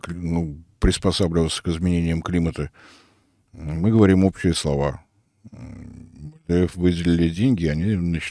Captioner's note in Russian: фыркает